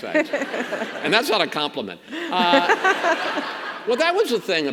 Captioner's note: governor laughs